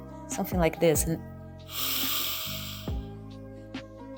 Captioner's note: inhaling